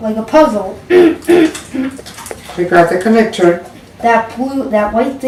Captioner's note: manly cough